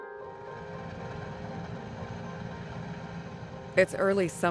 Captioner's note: piano music; helicopter rotors whirring